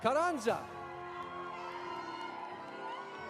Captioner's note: audience applauding; audience cheering